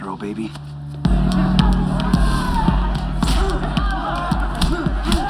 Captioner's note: fighting, cheering